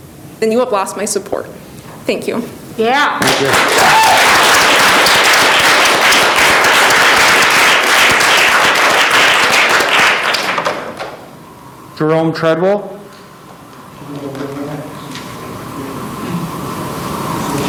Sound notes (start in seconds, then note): 3.2 audience applauding